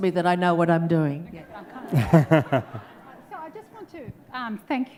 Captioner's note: audience laughs